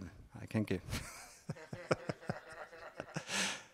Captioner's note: laugh